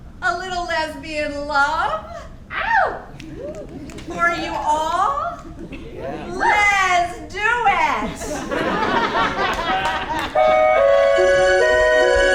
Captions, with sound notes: A little lesbian love?! For you all? Les do it! (audience laughing)